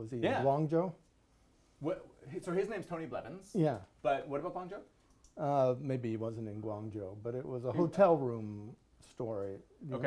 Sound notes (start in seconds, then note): none